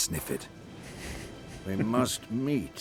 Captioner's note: chuckles